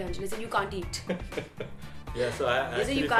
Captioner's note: laughing